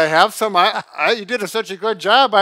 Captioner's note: laughing